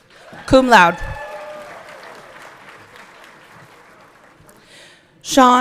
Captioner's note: everyone cheering